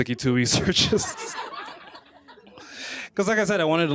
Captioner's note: laughter